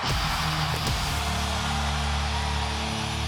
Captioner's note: crowd cheering